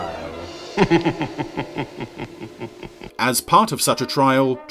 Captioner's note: wicked chuckling